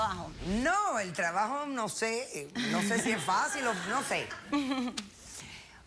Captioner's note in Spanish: risas